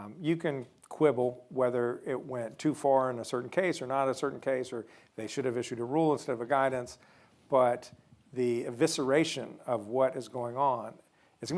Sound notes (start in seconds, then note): none